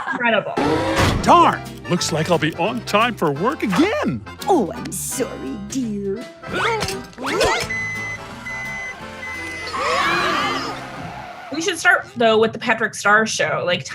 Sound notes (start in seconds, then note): 6.2 exertion yelps; 7.6 beeping; 9.8 tires screech; 10.8 worried screams